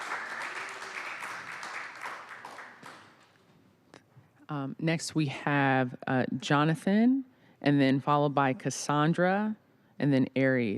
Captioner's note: applause